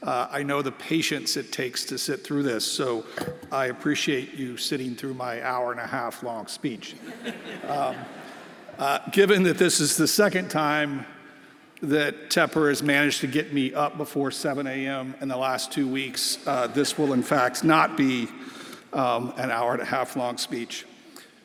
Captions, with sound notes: I know the patience it takes to sit through this, so I appreciate you sitting through my hour and a half long speech. (everyone laughing) Given that this is the second time that Tepper has managed to get me up before 7:00 AM in the last two weeks, this will in fact not be an hour and a half long speech.